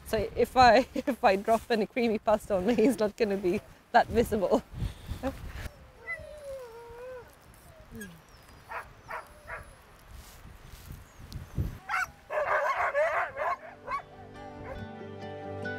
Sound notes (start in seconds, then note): 2.7 chuckles; 8.7 dog barking